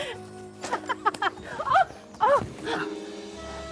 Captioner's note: laughing